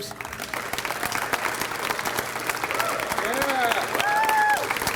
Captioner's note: audience cheers